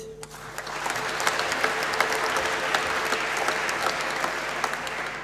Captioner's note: applause